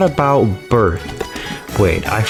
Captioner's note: inhales Oxygen